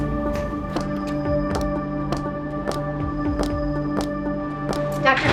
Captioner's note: footsteps in the hall of a medical setting